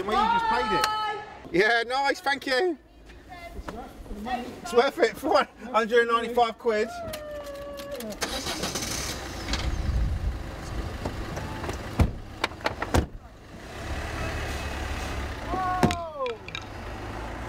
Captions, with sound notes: Byeeee! Yeah nice, thank you. It's worth it, for 195 quid. (engine starts)